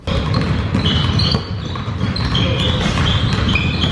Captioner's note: basketballs bouncing